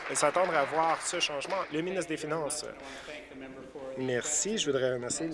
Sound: applause

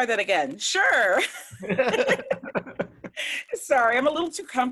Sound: all participants laugh

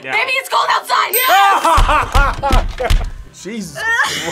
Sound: both laugh

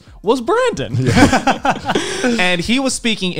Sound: men laughing

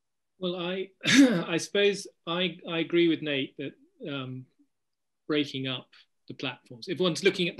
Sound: cough

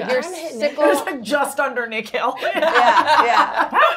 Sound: laughs

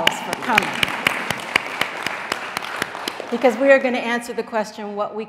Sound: audience applauding

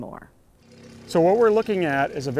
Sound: quiet motor running

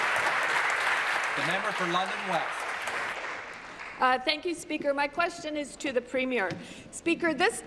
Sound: applause

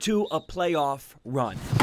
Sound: sounds of football practice

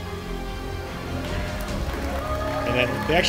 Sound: crowd cheering

